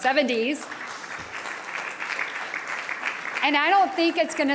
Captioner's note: audience applauding